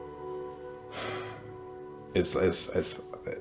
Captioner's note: sighs